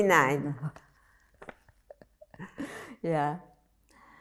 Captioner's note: laughing